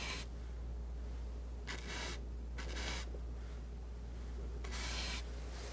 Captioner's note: scratching